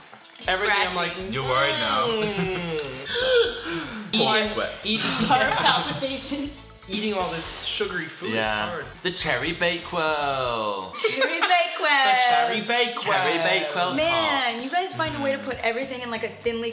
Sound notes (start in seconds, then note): 3.0 gasps